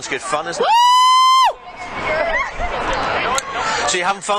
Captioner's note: screaming